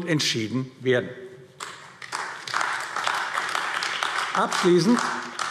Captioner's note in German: Beifall AfD